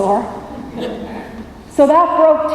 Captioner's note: laughter